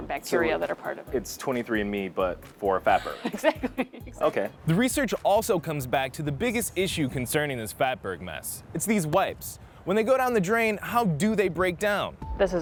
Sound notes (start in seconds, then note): 2.8 laughs